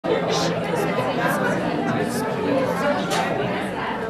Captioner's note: people chattering